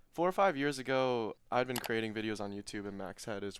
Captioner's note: computer mouse clicking